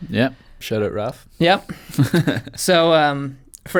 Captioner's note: laughs